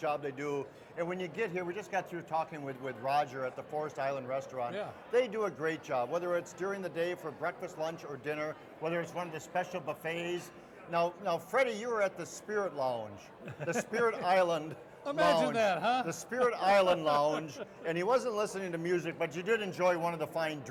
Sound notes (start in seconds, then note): 13.4 laughing